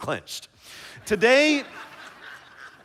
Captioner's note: laughter